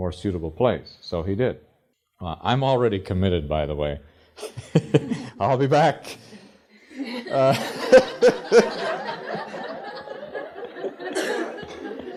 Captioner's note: laughter